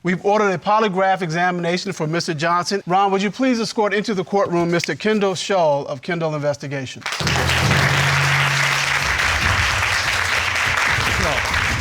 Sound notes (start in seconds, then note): 7.0 crowd clapping